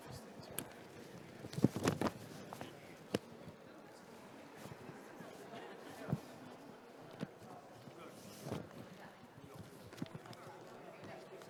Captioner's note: background conversations